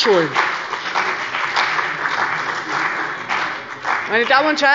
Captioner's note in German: Beifall bei der CDU und dem BÜNDNIS 90/DIE GRÜNEN